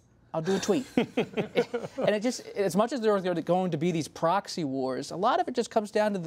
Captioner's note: laughter